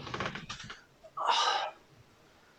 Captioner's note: painful grunts